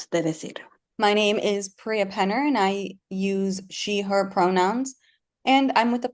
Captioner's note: habla en inglés